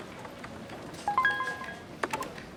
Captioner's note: phone notification beep